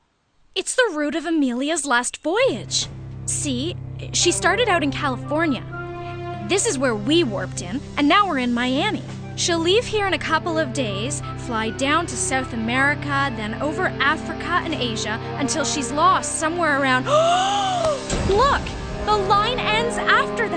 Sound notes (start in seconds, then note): 17.1 gasp